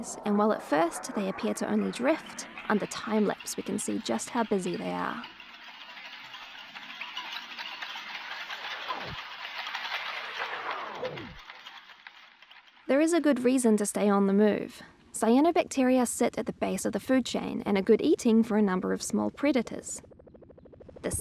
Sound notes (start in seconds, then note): 5.9 rustling electronic sounds